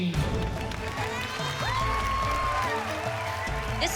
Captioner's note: crowd cheering